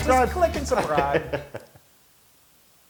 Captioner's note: laugh